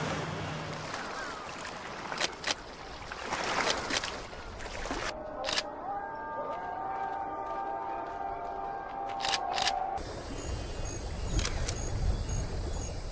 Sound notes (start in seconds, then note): 0.0 water splashing; 2.4 camera shutter clicking; 10.0 crickets chirping